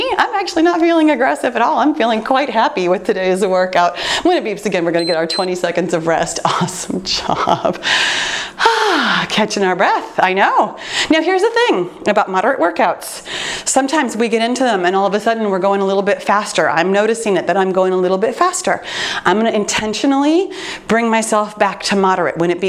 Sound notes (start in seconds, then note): 4.9 timer beeps; 7.8 sighs